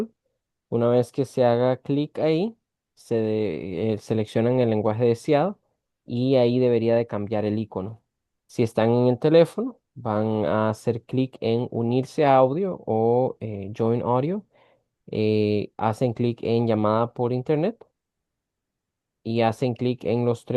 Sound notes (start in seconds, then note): 0.1 interpreter speaking in Spanish continued; 10.2 interpreter speaking in Spanish continued; 20.3 interpreter speaking in Spanish continued